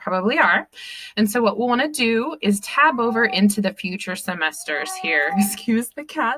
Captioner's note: meowing in background